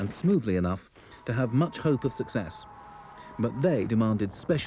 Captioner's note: rocket whistles